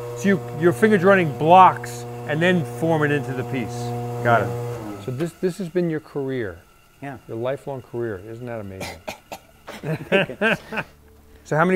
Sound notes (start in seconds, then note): 8.8 coughs; 9.6 laughs